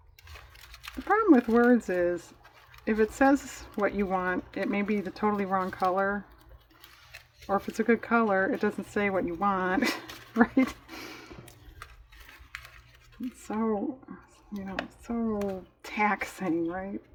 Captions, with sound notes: the problem with words is if it says what you want, it may be the totally wrong color or if it's a good color, it doesn't say what you want (laughs) right? it's so you know, so taxing right?